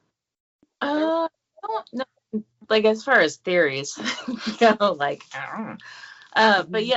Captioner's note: laughs